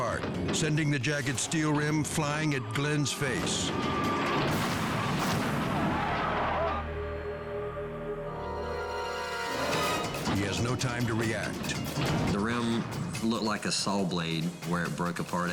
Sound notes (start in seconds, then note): 3.4 truck thumping; 4.3 tire thumps; 6.1 suspenseful music